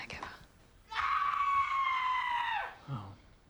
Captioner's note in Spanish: Jane grita